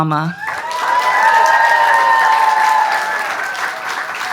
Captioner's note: audience cheers